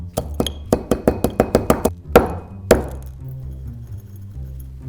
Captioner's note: pestle banging